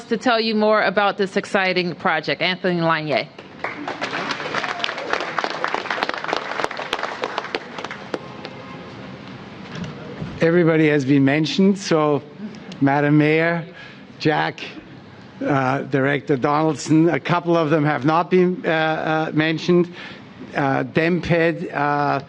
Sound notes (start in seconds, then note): 8.8 applause